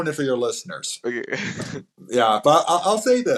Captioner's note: laughs